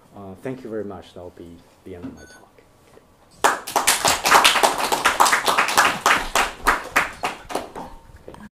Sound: applause

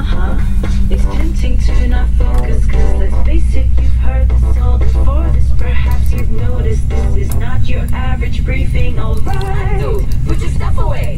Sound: laughs

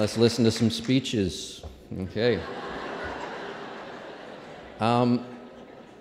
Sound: applause; laughter

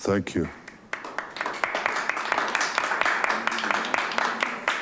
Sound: clapping

